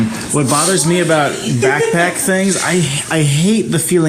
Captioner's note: laughs